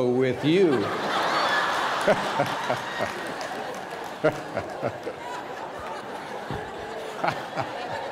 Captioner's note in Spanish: risas